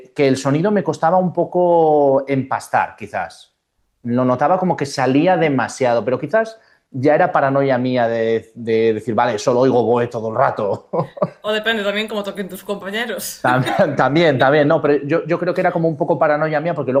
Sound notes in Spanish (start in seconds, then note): 10.9 risas